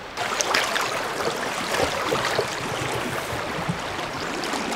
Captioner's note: water flowing